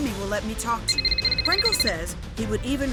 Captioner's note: phone rings